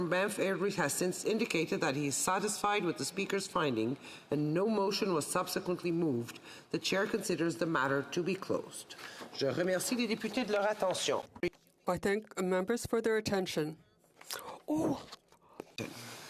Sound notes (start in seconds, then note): 12.6 speaking FRENCH